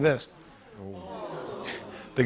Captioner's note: audience ooh's